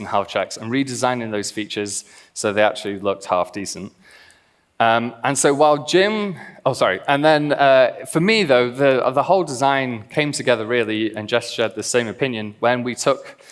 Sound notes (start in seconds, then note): none